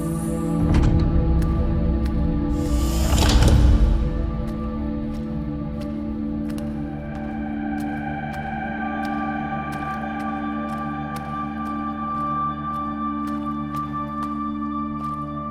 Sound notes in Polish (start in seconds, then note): 0.1 Dźwięk zamykanych wrót; 4.4 kroki na schodach